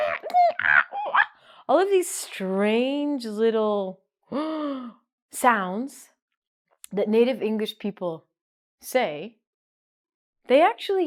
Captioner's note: gasp